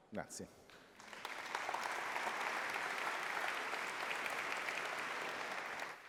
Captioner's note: applause